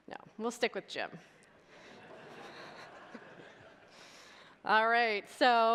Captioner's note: audience laughter